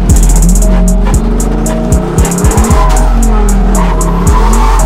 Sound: car engines revving; tires squealing

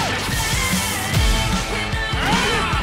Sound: grunts

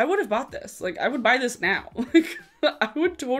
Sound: laughing

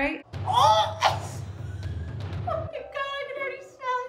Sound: chokes; laughs

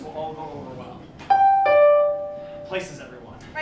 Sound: doorbell

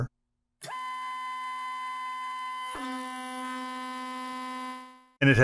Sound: buzz

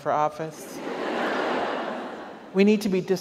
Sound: audience laughs

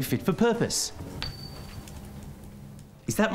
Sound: ding!

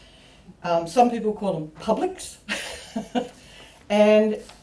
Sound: laughs

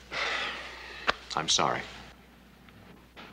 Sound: sighs

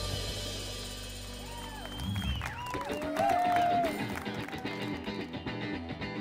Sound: applause

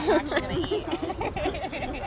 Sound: all chuckling

